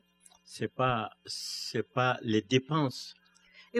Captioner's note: speaking french